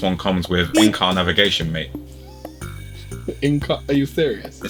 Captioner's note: laughs nervously